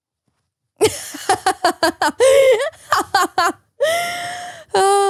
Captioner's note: laughs